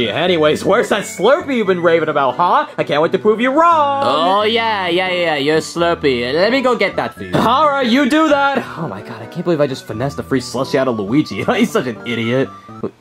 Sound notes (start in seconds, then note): 11.2 chuckles